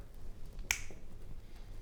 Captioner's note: snap